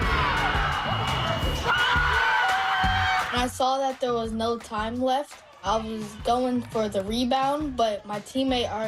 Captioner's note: cheers and Applause